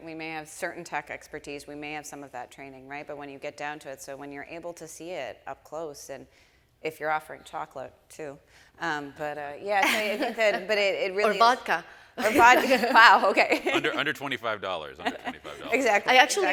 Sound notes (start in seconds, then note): 12.2 laughs